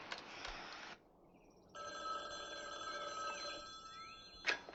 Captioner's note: telephone ringing